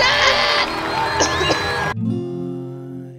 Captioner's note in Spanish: Coughing